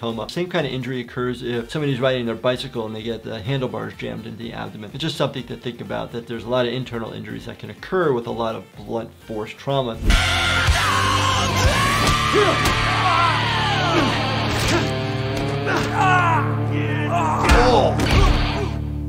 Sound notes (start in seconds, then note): 9.7 intense rock music; 10.6 loud grunting; 12.7 loud yelling; 15.5 loud grunting